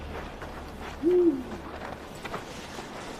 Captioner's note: hoot of an owl